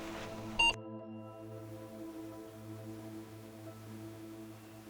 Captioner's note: camera beeping; atmospheric piano